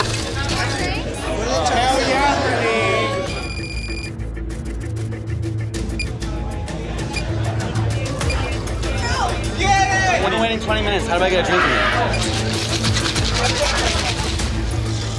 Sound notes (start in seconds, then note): 0.0 loud chatter; 3.2 beeping